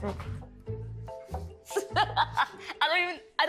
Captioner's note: laughing